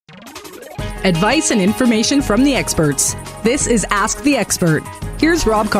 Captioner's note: voiceover